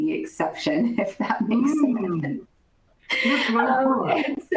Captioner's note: laughter